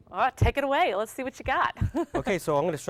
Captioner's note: laughs